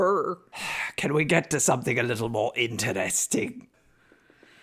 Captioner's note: sighs